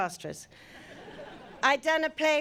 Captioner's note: audience laughing